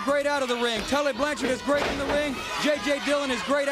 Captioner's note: crowd chatter